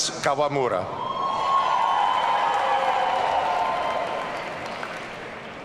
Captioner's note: audience cheering